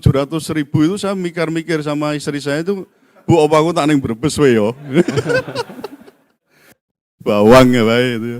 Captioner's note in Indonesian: tertawa